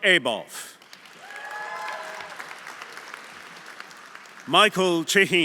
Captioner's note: audience applauding; audience cheering